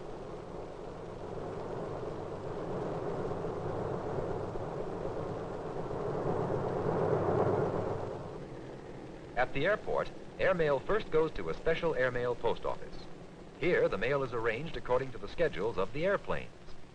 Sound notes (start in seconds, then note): 0.6 helicoper whirring